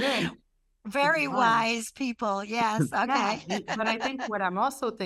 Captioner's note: laughs